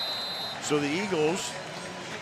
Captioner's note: whistle